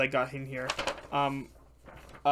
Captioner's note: papers shuffling